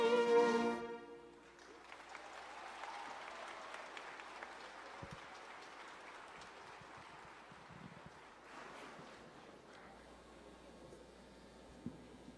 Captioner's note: applause